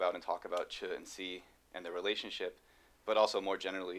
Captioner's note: non-english speech